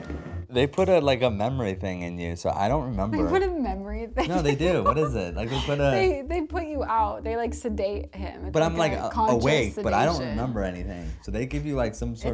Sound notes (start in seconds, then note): 4.2 chuckling